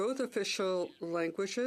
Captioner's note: speaking French